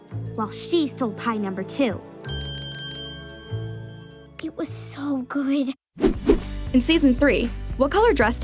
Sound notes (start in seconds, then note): 2.2 bell ringing